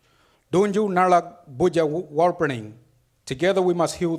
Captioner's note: speaks foreign language